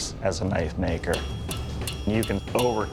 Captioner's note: metal clanging